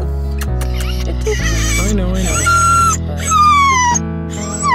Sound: kissing sounds; whines

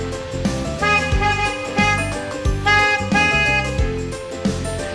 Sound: car horn honks

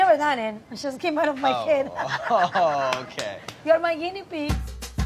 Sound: laughs

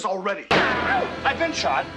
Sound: gunshot noise

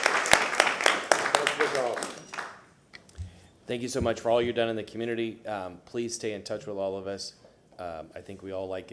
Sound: applause

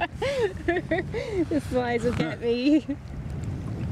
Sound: laughing

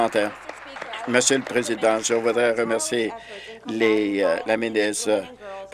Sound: applause

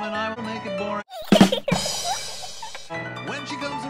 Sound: laughter; ba Dum Dss

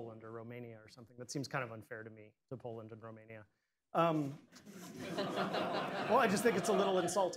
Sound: laughter

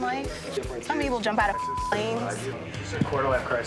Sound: beep

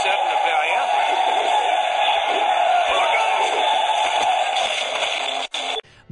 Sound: jungle noises are heard

